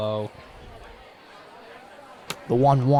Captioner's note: indistinct chatter